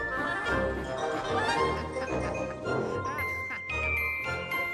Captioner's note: mike laughs